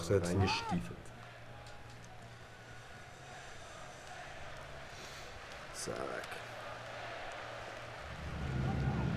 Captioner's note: applaus